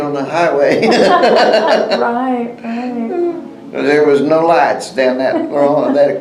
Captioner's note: laughs